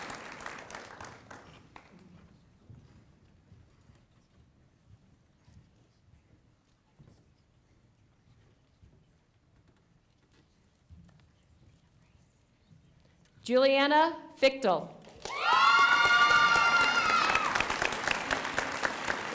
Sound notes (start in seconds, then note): 0.0 applause